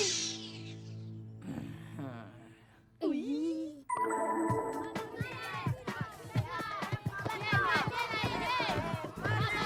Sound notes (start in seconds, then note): 1.1 growling; 1.5 gasp; 6.1 spectator noise